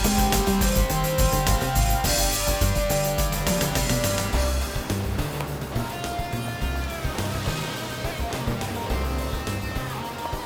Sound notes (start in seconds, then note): 0.7 smooth jazzy music continues; 4.7 footsteps tapping; 4.7 vehicle engines revving